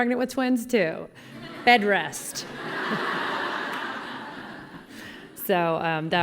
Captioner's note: collective laughter